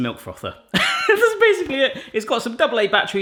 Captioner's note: laughs